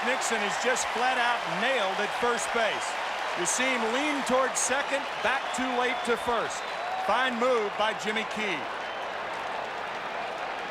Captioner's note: applause